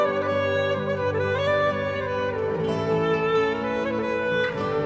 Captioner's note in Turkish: none